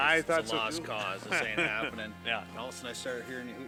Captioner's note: laughs